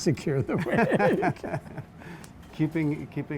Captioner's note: both laugh